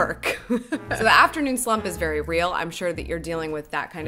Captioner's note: laughs